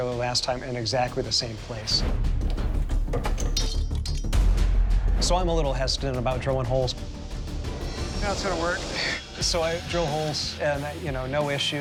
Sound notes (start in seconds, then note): 2.5 clanging